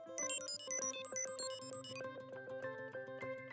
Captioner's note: beeping